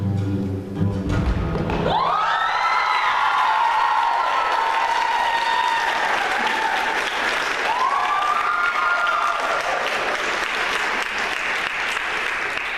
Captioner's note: applause